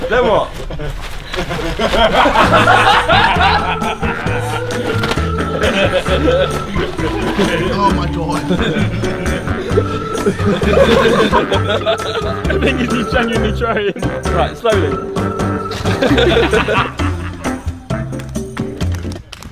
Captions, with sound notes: - Then what? (comical music) - Oh my god. - The thing is he's genuinely trying. - Right, slowly. (laughing) (clapping)